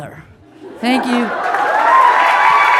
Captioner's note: audience laughing